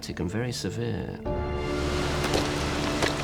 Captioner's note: dramatic music; crashing rock